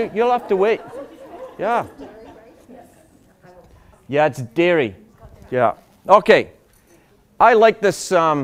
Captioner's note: laughter